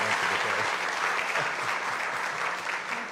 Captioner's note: applause